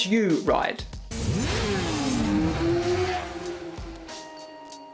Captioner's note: motorbike roaring